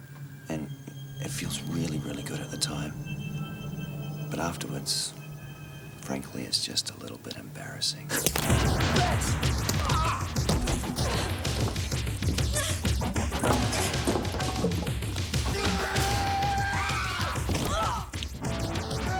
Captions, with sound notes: and it feels really, really good at the time, but afterwards, frankly, it's just a little bit embarrassing? Bitch! (groans) (energetic music) (Jodie grunting) (yelling) (screaming)